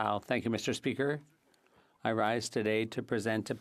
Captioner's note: speaking French